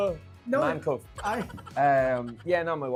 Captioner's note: chuckles